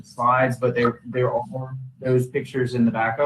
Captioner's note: distorted audio